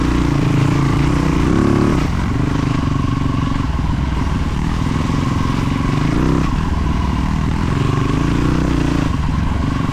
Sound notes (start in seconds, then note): 0.0 engine revving